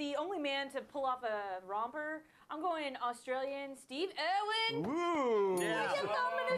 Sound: bell Rings

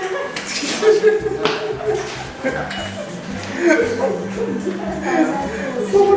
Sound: laughter

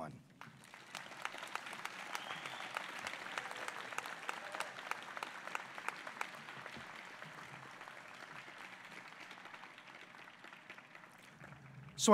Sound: applause

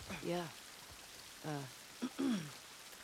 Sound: clearing throat

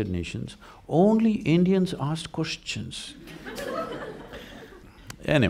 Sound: laughter

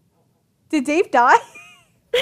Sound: laughs

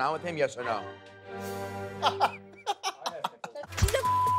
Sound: Ronnie laughing; beep

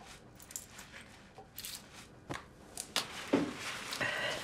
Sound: paper towel scrubbing

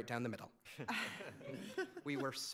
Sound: laughs

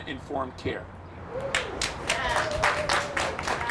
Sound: crowd applauding

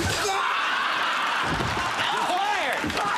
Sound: crowd laughing

